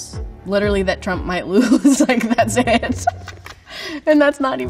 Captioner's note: laughs